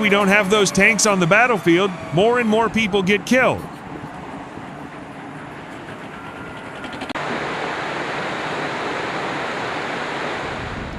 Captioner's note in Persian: تشویق حضار